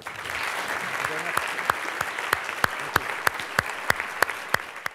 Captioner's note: applause